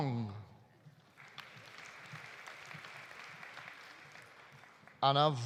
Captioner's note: audience applauding